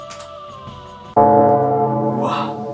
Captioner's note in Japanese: 鐘の音